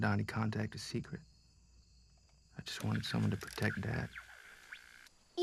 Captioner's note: radio tuning